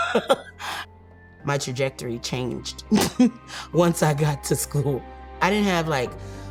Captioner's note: chuckles; laughs